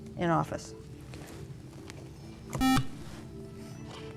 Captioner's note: beep